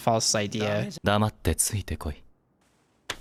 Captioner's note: speaking in foreign language